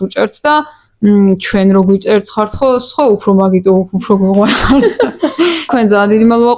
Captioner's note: giggle